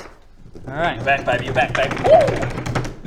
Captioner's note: table drum roll